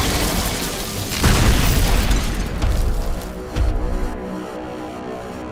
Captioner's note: loud, thudding footsteps